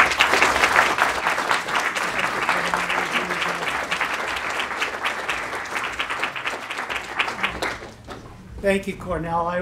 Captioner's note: applause